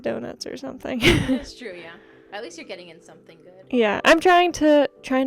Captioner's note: laughter